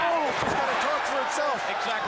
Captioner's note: Flair screams